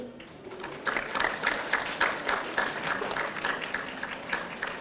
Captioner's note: audience applauding